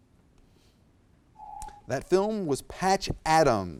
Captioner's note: alarm echoes